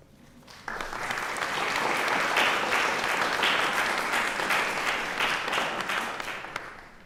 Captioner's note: applause